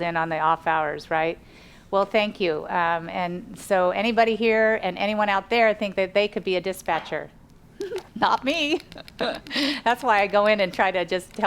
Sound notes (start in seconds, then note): 8.6 laughs